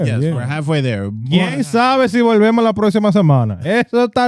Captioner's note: speaking In Foreign Language